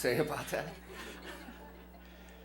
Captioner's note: laughter